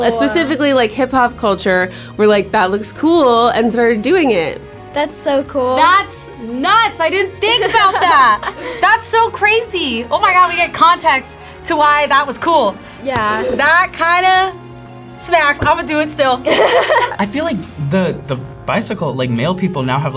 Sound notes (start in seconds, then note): 16.4 laughs